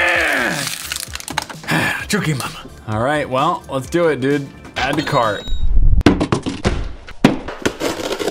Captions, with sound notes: *crushes bottle* Erughhh! *exhale* Ah Chookey Mama. Alright, well, let's do it dude. Add to cart to